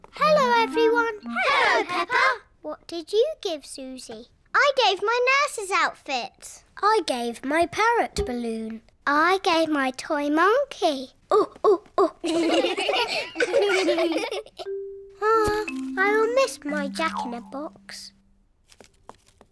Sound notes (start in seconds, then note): 12.0 children laughing; 12.2 all laugh